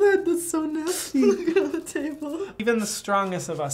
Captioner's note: laughing